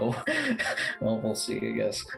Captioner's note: chuckles